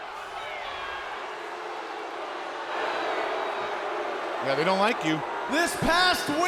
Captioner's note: crowd cheering